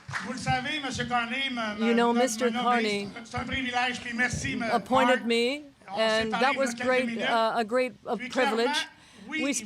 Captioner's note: applause